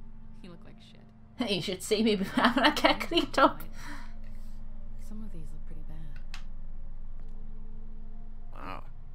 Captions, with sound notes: "Hey, you should see me befo-" [Laughs] "when I get cleaned up!"